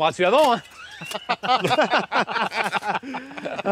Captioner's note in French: Rires